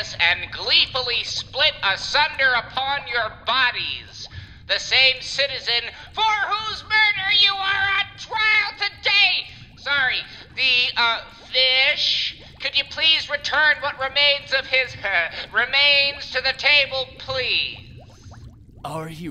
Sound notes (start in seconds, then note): 5.9 yelling; 9.6 lowering his voice